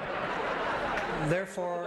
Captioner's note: laughter